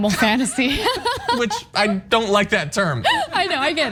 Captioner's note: laugh